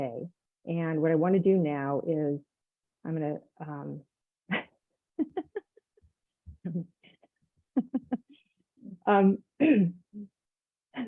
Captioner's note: laughs